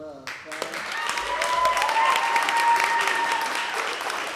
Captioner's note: applause and cheering